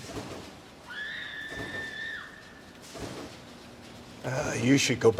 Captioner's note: Sarra screaming